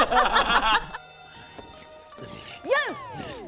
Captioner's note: surprised laugh